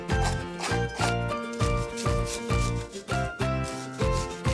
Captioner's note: knife scraping; upbeat music continues